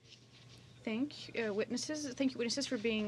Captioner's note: speaking French